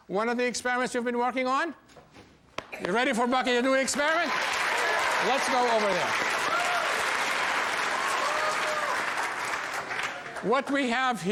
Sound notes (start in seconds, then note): 3.9 audience cheers; 6.6 audience applauds